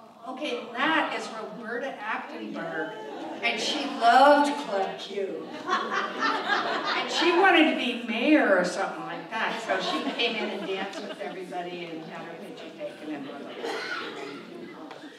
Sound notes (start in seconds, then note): 0.0 crowd chatting; 5.4 audience laughs